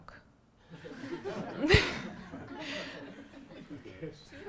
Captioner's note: audience laughing